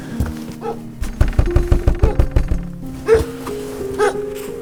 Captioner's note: knocking; dog barking